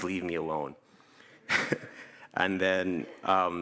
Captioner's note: chuckles